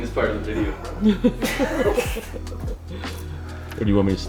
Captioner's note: laughter